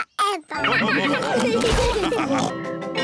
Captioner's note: all laugh